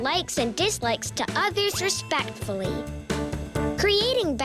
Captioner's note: bell ringing